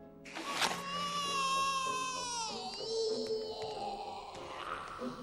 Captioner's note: childlike screaming